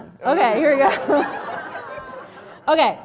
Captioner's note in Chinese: Laughter; 笑聲